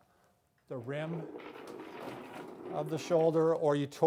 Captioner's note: wheels scraping